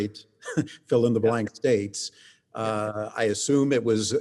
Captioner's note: chuckles